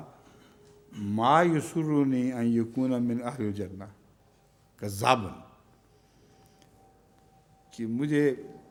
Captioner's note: Arabic